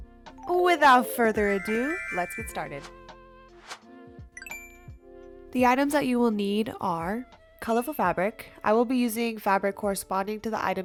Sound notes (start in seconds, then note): 4.4 ding